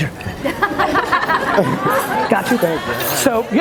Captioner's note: audience laughs